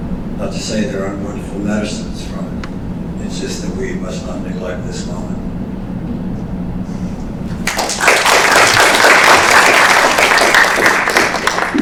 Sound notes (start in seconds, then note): 5.9 applause